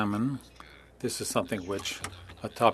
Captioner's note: speaking French